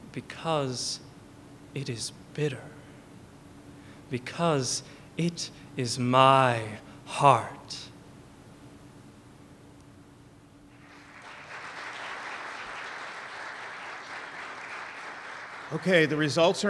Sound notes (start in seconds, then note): 10.7 applause